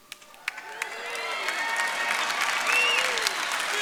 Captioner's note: audience applauds